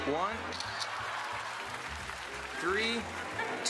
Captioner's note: camera shutter clicks